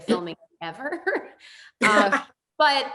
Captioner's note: laughs